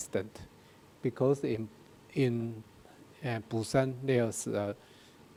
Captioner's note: speaking in a foreign language